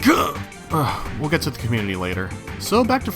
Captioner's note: sigh